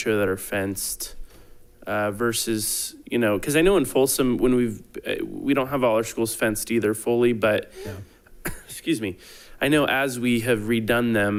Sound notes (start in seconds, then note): 8.4 coughing